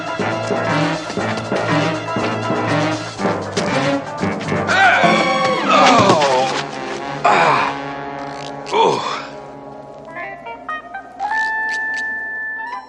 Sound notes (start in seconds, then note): 4.6 exclaims; 7.4 groaning